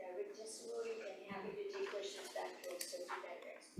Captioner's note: faintly speaking